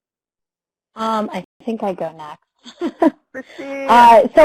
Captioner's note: giggles